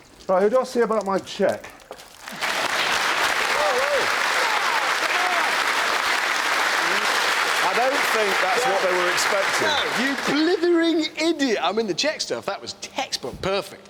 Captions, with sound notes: Right, who do I see about my cheque? (AUDIENCE CLAPS) I don't think that's what they were expecting. No. You blithering idiot. I mean, the cheque stuff, that was textbook. Perfect.